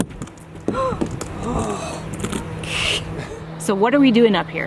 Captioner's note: gasps